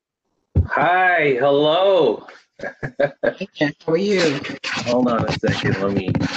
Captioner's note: chuckling